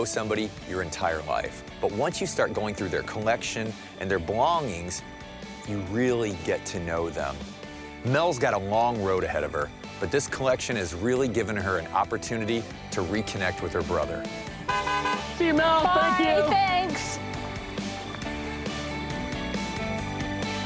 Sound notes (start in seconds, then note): 14.6 honking; 17.3 theme music